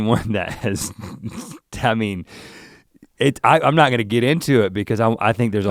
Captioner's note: chuckles